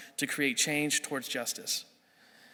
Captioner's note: none